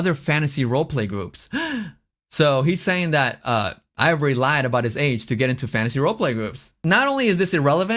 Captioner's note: gasps